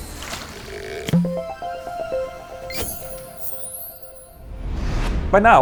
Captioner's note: playful chime